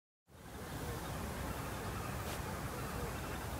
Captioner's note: bird chirping